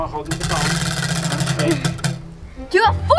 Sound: wheel clanks around metal axle

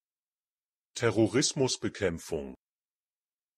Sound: fast Pronunciation

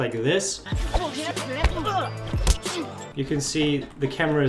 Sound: upbeat music; punching and grunting

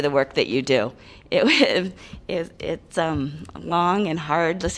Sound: laughter

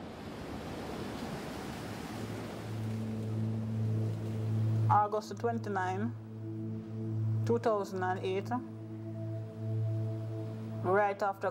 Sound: wind blowing

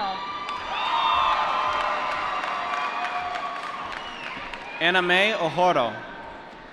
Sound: applause

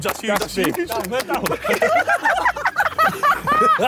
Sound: laughing

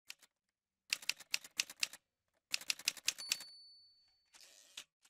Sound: typewriter sounds

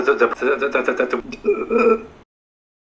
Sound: chokes

